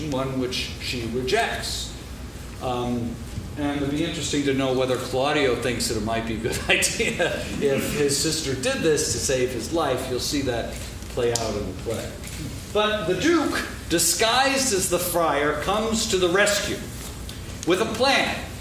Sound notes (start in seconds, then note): 6.4 laughs